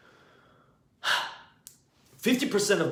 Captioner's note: exhales